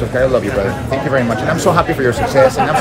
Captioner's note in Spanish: hablando inglés